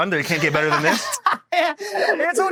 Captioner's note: laughs